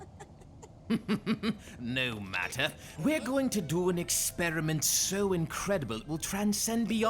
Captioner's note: chuckles